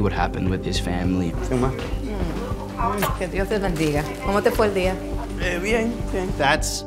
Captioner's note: speaking spanish